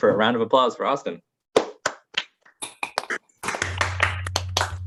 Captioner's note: applause